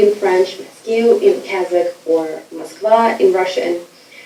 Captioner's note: speaking foreign language